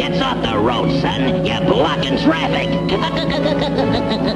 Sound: laughs

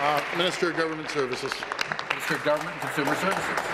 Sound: applause

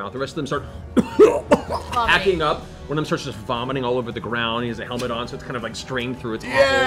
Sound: coughs

